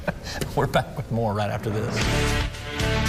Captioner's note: chuckling